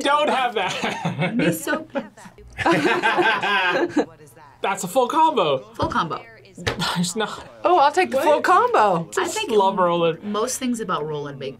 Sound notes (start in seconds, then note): 0.5 both laugh; 0.5 laughs